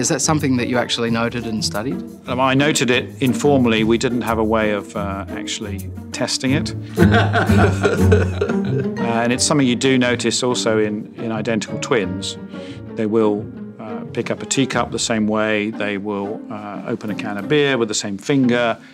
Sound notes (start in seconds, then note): 7.0 laughing